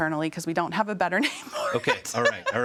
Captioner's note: laughs